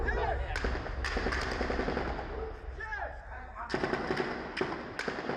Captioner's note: people yelling in foreign language; guns firing rapidly